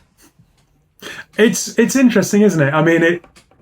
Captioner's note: laughs